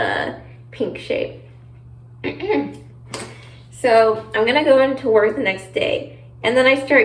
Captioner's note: clears throat